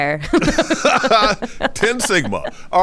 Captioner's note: laughs